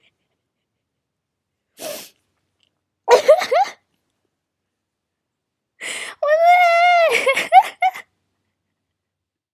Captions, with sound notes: *laughter* *wHEEze* eh-HueHA! *inHAle* wH at THe hEEEcKKK- hUe He huehA